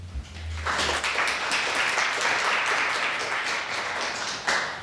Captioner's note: audience applauding